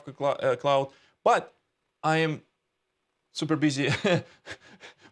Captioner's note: giggles